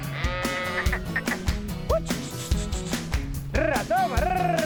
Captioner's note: sheep bleat; whistles and calls sheep